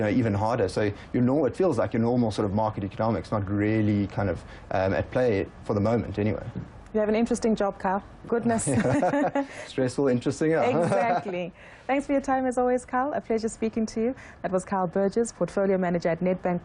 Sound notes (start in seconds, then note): 8.6 laughing